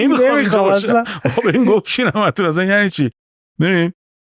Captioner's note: laughs